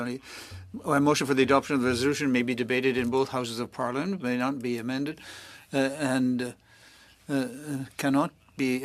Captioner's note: speaking French